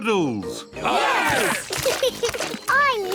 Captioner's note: cheering; laughs